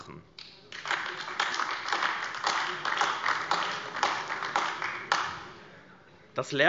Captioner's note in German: Beifall AfD